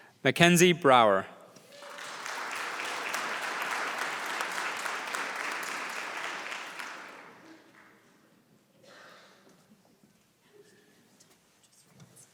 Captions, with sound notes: >> Mackenzie Brower. >> [APPLAUSE]